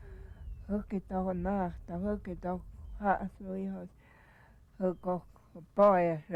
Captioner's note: speaking in native tongue